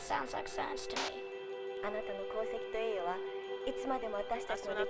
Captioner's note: woman #1 speaking japanese; woman #2 speaking japanese